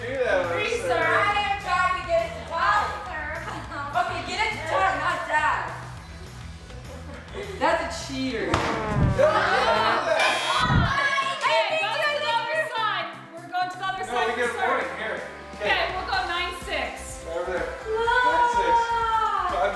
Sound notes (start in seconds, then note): 8.9 disappointed trumpet; 10.1 buzzer goes off